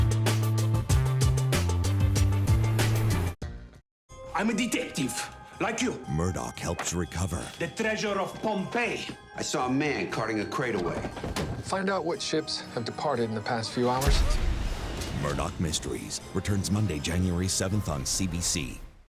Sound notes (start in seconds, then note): 14.0 cannon fire